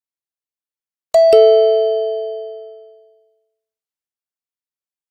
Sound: sound of doorbell

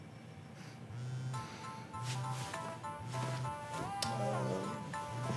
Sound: cellphone Ringing

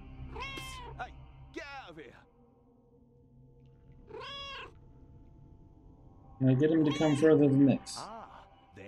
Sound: Hodge meowing; Hodge meowing

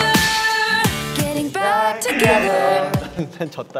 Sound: buzzer rings

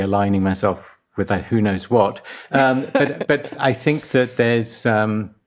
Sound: laughs

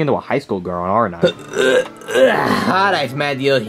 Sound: Luigi grunting

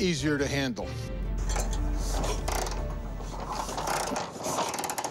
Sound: cranking

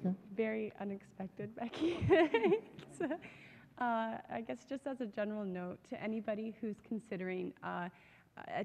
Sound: laughs

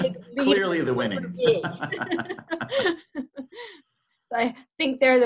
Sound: laughs

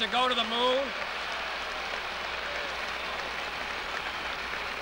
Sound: audience clapping

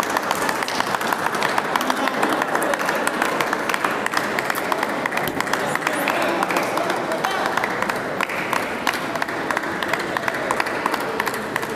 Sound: applause

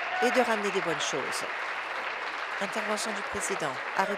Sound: applause

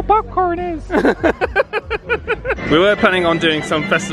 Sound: laughs

